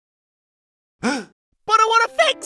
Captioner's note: gasps